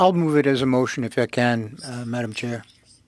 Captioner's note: speaking FRENCH